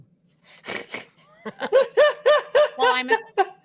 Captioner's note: all laughing